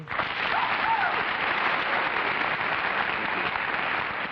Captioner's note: cheers, applause